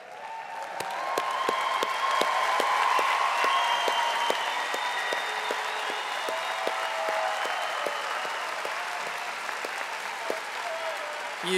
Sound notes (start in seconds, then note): 4.0 audience applauding and cheering